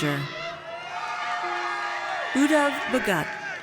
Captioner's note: audience cheers